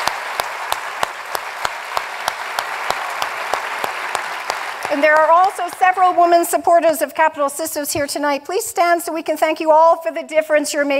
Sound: applause

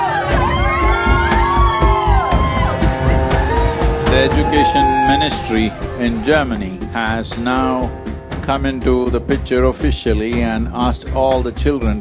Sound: cheering

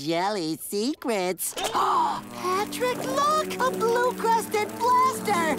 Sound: gasping

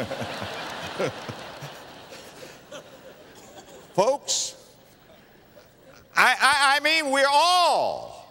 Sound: laughter; audience laughter

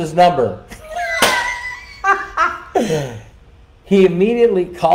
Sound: laughing

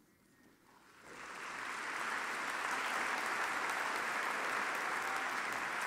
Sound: audience applauding

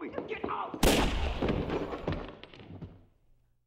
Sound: gunshot; thud

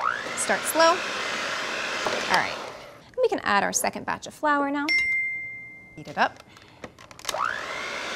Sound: bell

